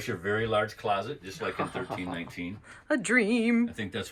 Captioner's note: laughing